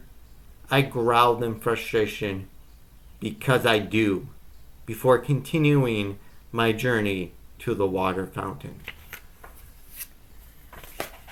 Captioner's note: rustling of the book closing